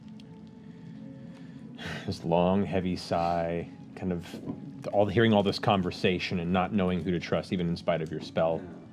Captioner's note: sighs